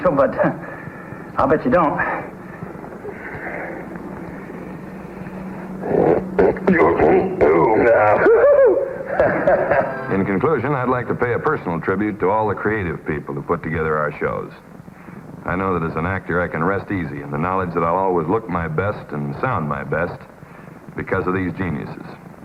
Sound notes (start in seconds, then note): 5.9 marshal grunts; 8.2 marshal giggles